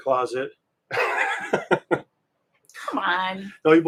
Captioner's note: laughing